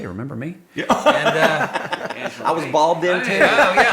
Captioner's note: laughs